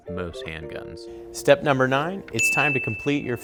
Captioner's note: dinging